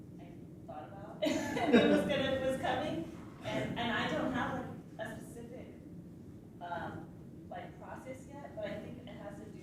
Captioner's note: laughs